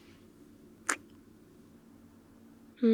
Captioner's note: kiss